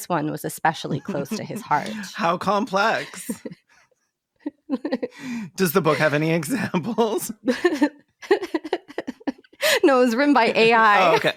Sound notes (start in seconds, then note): 5.6 laughs; 10.4 laughs